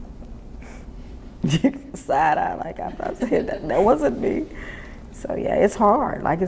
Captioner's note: giggles